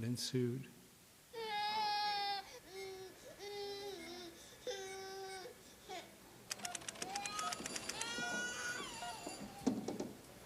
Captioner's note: child crying